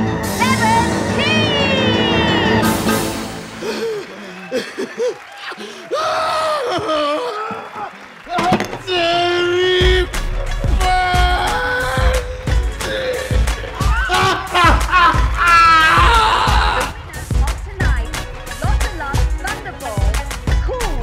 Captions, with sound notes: 17 huh [heavy breathing] huhuh [heavy breathing] yahaaaaa [screaming] bloody hell ha ha ha ha